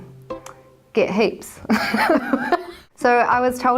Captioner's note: laughter